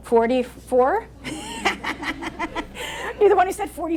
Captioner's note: laughing